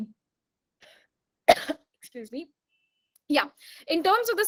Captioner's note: coughs